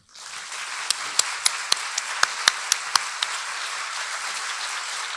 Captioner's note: audience applauding